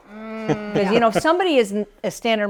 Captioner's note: laughs